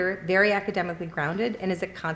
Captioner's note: none